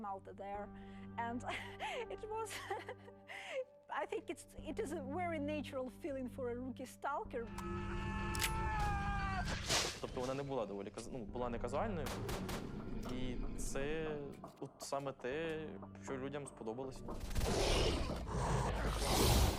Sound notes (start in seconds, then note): 2.5 chuckling; 7.6 man screaming; 17.3 creatures roaring